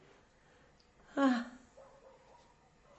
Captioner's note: aunt emilia sighs